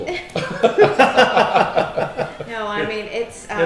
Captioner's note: laughing